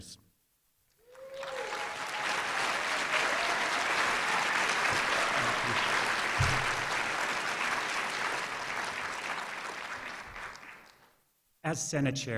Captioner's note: applause